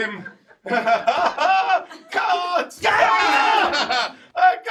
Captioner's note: shouts